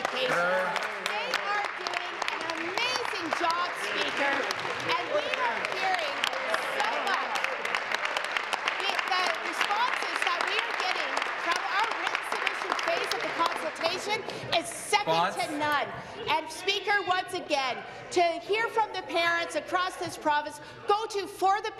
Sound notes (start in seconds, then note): 4.9 applause; 10.1 continued applause